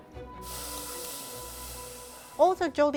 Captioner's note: light up-tempo music; steam hisses